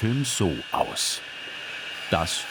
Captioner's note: sawing noise